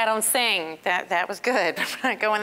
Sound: chuckling

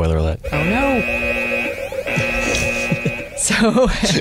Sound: alarm blaring

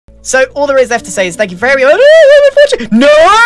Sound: screans

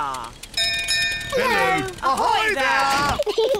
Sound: bell rings; peppa and george giggle

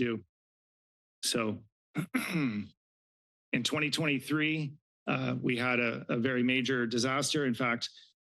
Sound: clears throat

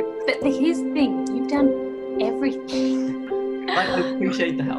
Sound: laughs

